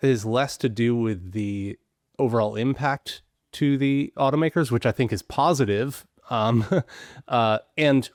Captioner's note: chuckles